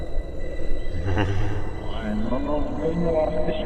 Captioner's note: unsettling laughter